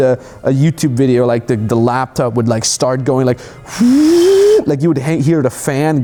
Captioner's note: mimicking whirring